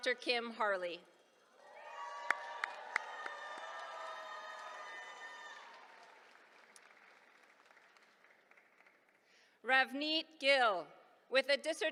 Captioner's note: applause